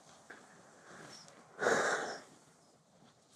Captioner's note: dramatic sigh